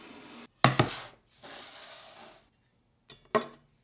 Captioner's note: board sliding